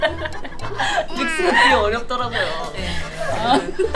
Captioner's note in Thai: หยุดขำไม่ได้